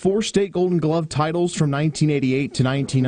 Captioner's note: laugh